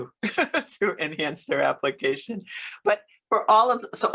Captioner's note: laughs